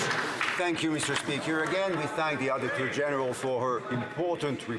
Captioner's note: some Applause